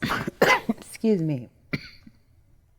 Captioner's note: coughs